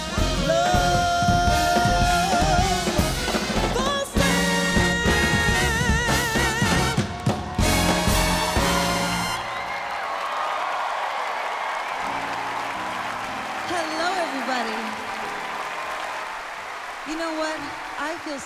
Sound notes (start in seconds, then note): 9.3 cheers and applause